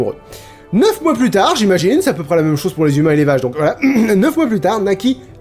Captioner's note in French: ahem